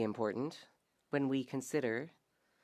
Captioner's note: speaking French